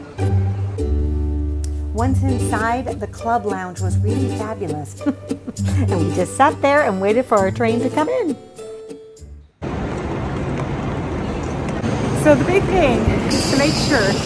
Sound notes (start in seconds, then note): 5.0 laughs